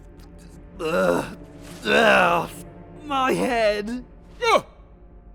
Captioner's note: disorientated groans; wincing pain; gasp